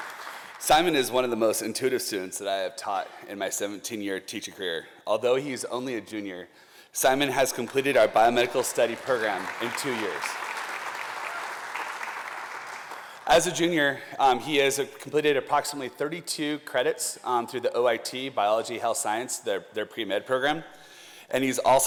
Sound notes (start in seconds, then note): 10.4 applause